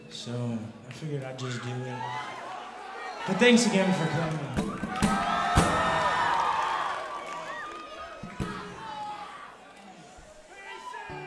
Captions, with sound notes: so we're gonna just do it. But thanks again for coming. (audience applauding)